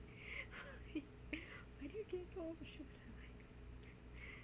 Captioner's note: laughs